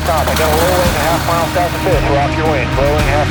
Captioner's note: air plane engine drowns out speaker